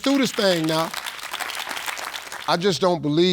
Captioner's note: audience clapping